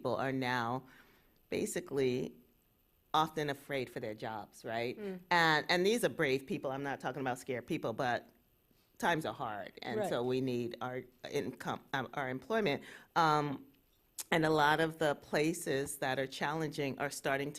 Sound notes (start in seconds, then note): none